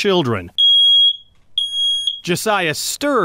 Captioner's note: loud high-pitched beeping